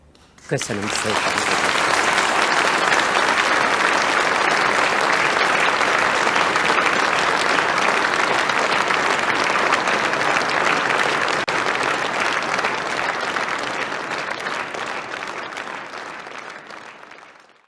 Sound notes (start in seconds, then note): 2.1 applause